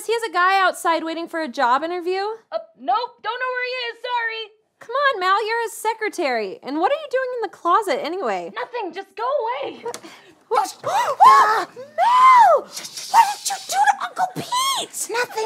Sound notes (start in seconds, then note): 12.5 gasps; 13.0 shushes